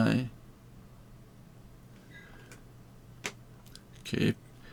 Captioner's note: silence